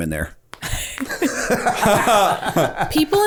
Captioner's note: laughter